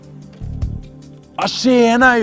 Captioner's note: Kenneth tries to sound like a Stockholmer